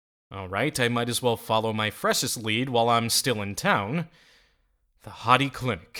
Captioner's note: none